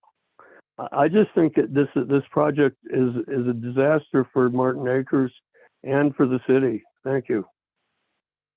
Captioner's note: by phone